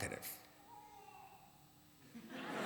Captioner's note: baby cries; laughter